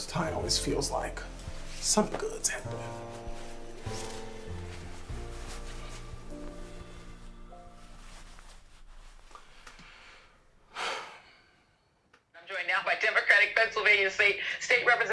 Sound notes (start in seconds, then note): 3.9 relaxing music continues; 10.7 Malcolm sighs